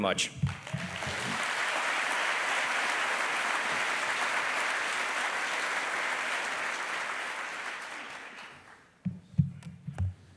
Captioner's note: applause